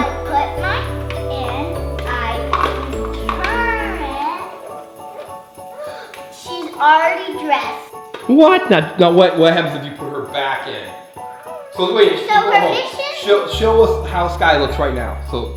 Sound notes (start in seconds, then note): 4.6 gasps; 11.2 mellow music